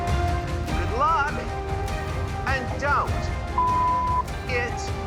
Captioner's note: beep